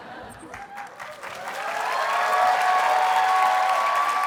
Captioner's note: audience cheers and applauds